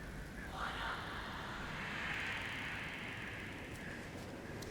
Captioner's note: ghosts whispering